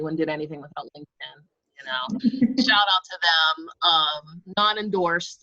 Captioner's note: laughs